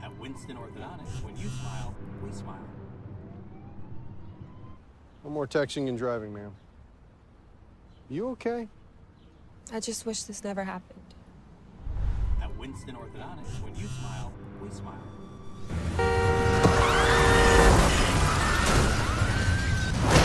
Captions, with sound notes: - At Winston orthodontist, when you smile we smile. (car siren) - No more texting and driving mam. Are you okay? - I just wish this never happened. - At Winston orthodontist when you smile we smile. (Car Hooting) (Screaming)